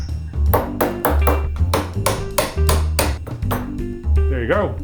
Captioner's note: rhythmic banging echoes